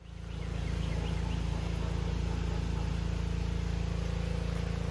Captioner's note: motor humming